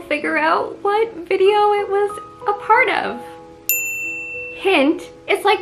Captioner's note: ding noise